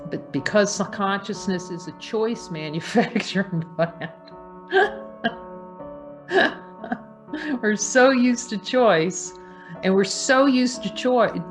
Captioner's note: laughs